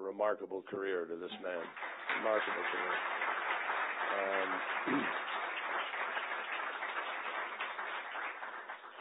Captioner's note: applause